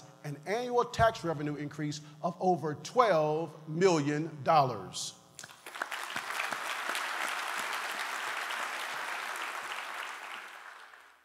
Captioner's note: applause